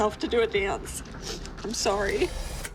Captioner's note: sniffles; dramatic music playing